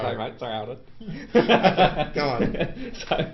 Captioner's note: laugh